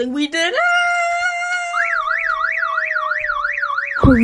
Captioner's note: car alarm noises because episode 2